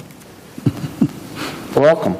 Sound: chuckles

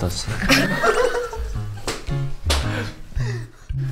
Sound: they burst into laughter

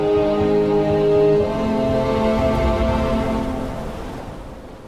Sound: wind and waves crashing

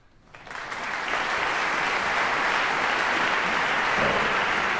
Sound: audience applause

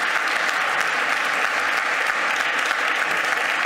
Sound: clapping

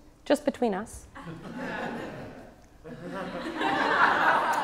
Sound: audience laughs

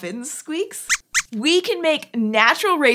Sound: squeaks squeaks

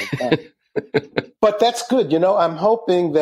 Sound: laughing

